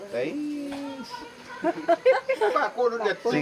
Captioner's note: laughs